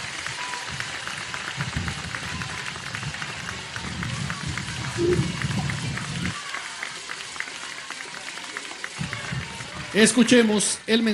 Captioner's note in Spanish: aplausos